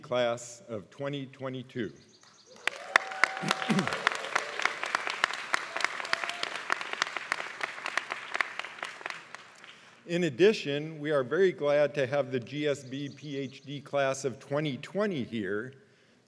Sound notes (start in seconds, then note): 2.5 applause